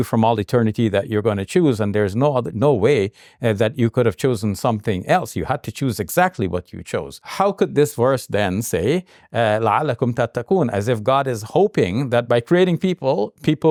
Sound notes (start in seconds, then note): 9.4 speaks in Arabic